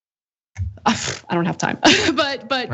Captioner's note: laugh